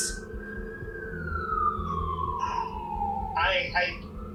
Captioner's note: distant siren